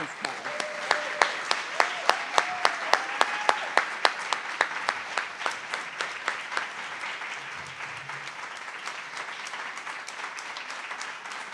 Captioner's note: applause